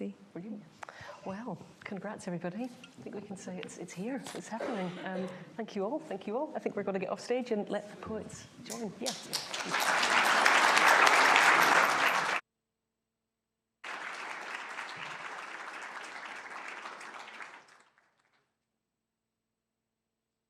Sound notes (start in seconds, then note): 9.0 applause